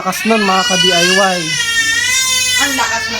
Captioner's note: baby shouting